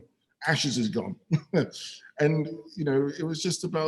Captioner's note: chuckles ruefully